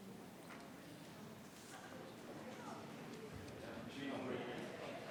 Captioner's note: attendees chattering continues